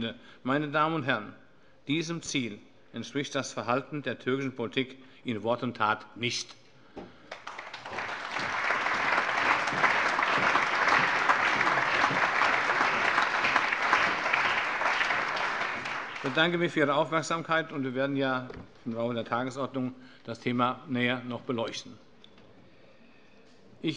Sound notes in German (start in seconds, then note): 7.2 Allgemeiner Beifall